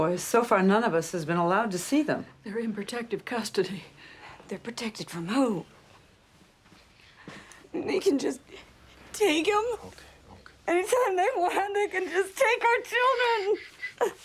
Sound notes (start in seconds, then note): 7.4 sobs; 12.4 cries